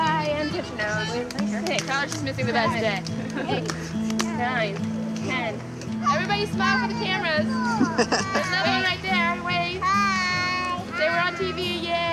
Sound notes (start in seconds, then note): 7.6 chuckling